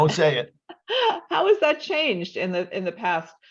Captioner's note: laughs